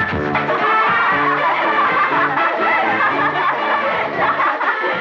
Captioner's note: Laughing